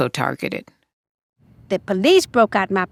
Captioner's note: soundbite of archived recording